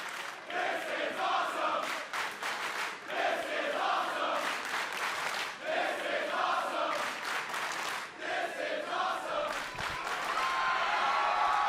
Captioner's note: fans chanting